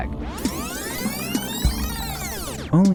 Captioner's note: tape rewinding sound